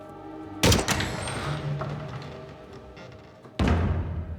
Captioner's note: door squeaks